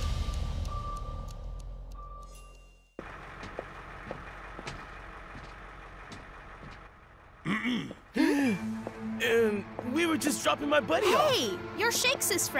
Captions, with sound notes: (engine idling) (clears throat) (gasps) - Um, we were just dropping my buddy off. - Hey, you're Shakes' friend!